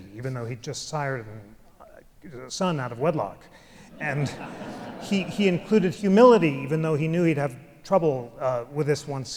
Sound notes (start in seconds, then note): 3.9 audience laughs